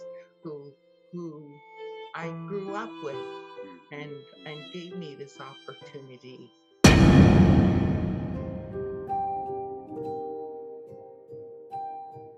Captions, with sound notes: who I grew up with and gave me this opportunity. (big bang sound) (somber piano music)